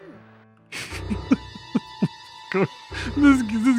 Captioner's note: laughs